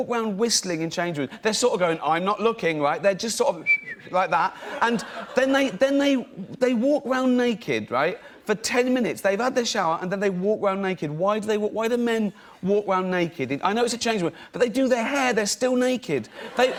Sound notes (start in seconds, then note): 3.6 whistling; 16.3 laughter